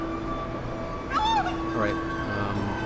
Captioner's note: scream